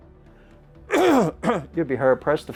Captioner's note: coughing